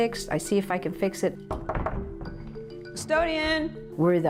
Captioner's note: knock knock